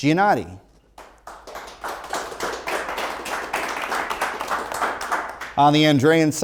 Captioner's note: applause